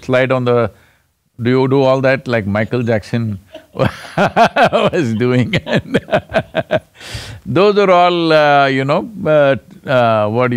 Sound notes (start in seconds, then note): 3.5 laughter